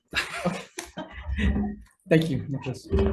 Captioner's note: chuckling